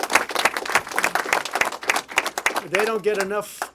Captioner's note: applause